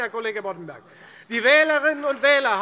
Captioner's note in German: Beifall Freie Demokraten